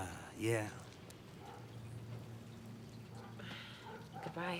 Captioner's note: dog barking